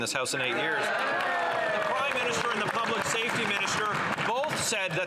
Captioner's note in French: voix de l'interprète